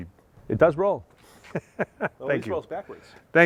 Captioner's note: laughing